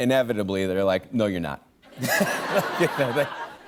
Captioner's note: laughter